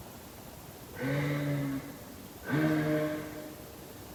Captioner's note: weird grunting noises. Some kind of animal?